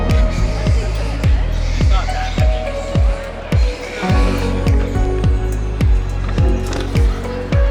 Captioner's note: people chattering, bats squeaking